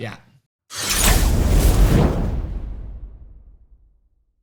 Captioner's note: metal slicing; wind howling